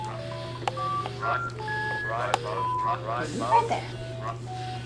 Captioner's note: multiple calculator voices